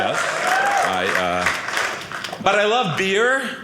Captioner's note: audience cheering